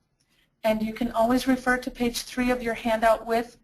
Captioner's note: voiceover